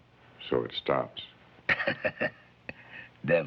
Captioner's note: laughing